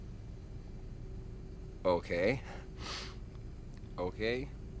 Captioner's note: sniffles